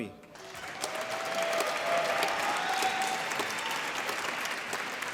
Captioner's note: applause